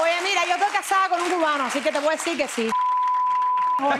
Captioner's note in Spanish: bip